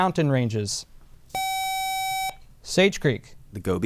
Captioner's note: buzzer